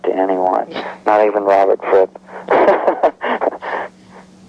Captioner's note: laughing